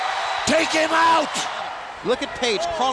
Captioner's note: audience cheers